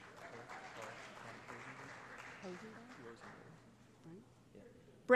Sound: applause

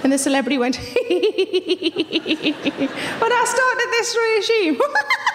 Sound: laughs; laughs

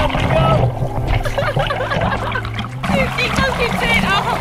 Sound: laughs

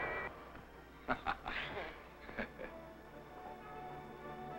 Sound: crew laughing

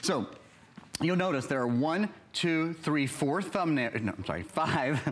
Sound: counting

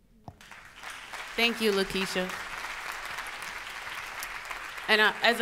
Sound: audience applauds

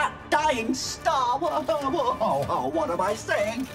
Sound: stammering

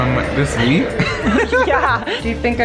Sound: laughs

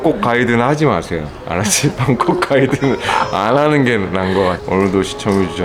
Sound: laughing

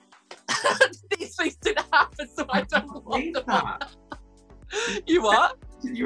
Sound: laughing

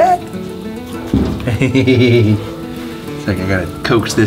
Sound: chuckles

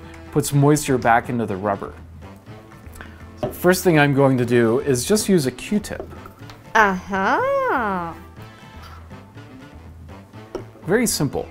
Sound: female voice ahhh haaa

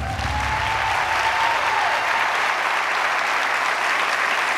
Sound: audience applauds

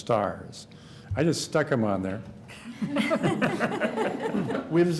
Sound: laughter

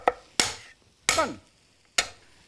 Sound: smacks cutting board

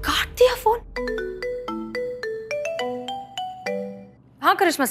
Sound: phone ringing

